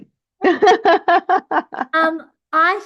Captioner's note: laughs